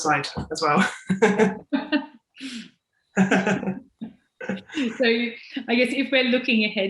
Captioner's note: laughing